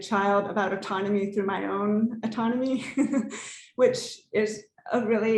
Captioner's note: laughs